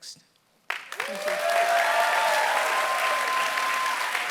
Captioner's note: applause